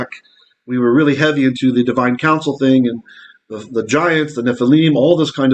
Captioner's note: Hebrew